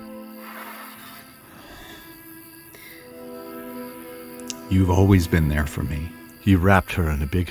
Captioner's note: sigh